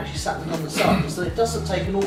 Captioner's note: clearing throat